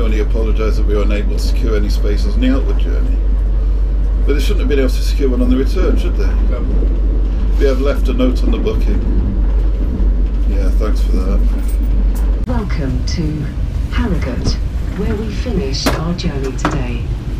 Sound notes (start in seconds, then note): 10.3 train announcement